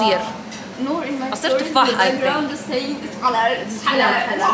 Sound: chatters in the background

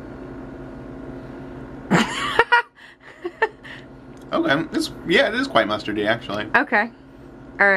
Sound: laughing

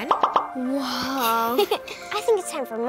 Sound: girl in white giggles

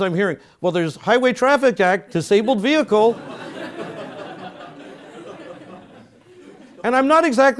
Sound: laugh

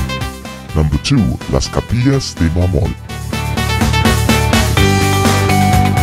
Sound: male Voice

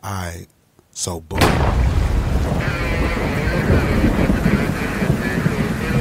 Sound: loud bang; radio squawking

